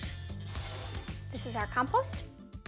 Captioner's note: bowl scraping